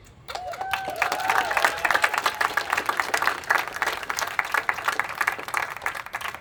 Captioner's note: attendees applauding and cheering